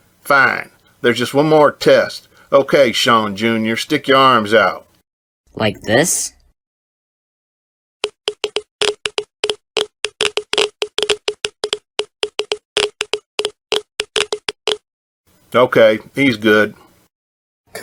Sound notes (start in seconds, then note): 8.0 geiger counter clicking